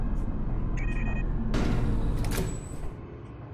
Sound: beeping; door clicking

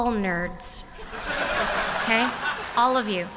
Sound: laughter

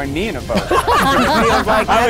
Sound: all laugh

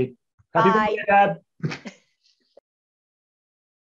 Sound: group chattering

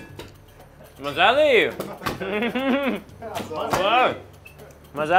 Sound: in foreign language

